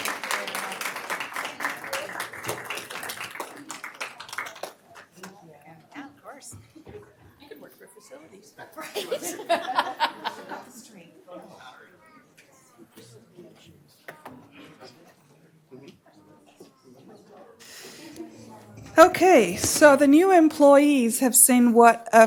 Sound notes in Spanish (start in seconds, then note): 10.6 Aplausos